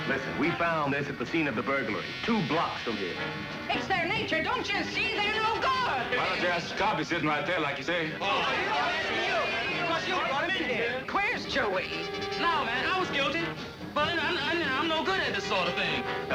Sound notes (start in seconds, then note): 8.3 indistinct chatter